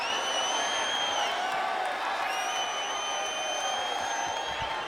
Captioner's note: audience cheering